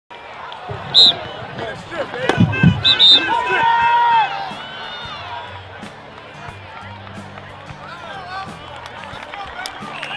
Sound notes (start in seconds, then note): 2.4 whistle blows; 6.1 cheering